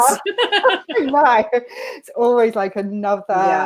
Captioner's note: laughter